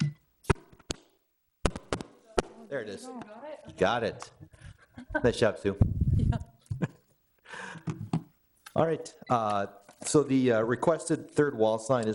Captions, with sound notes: (mic thudding) There it is. You got it? Got it. Nice job, Sue. Yeah. All right, so the requested third wall sign